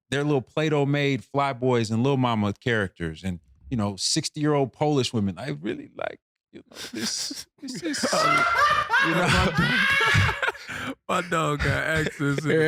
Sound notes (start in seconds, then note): 7.6 laughing